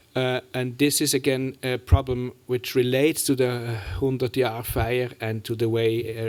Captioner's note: german